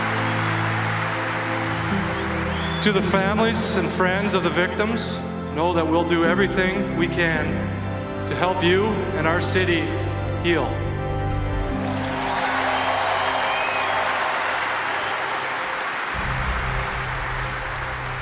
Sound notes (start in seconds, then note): 11.7 applause